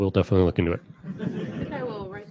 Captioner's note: laughter